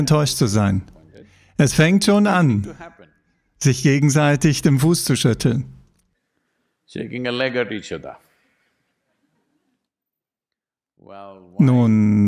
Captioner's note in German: lacht